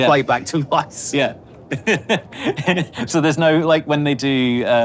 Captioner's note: chuckles